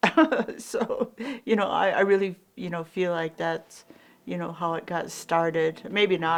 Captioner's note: laughs